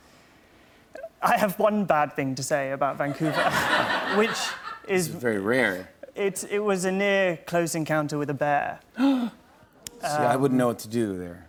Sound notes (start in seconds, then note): 3.0 laughter; 9.0 gasps